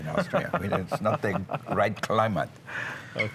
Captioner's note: laughter